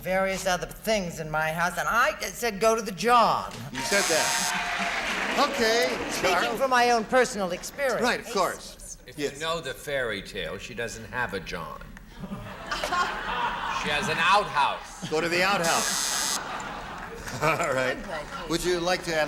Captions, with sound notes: and various other things in my house, and I said go to the john. -You said that. (buzzer) -Okay, Charles. -Taking from my own personal experience. -Right, of course. -If you know the fairytale, she doesn't have a john. She has an outhouse. -Go to the outhouse. (buzzer) -All right. Would you like